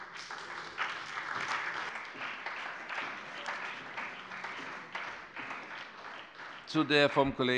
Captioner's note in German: Beifall bei dem BÜNDNIS 90/DIE GRÜNEN und der CDU